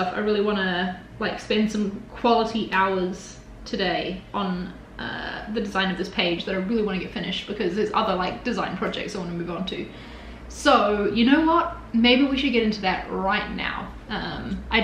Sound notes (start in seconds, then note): none